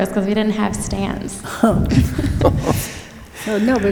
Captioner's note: laughter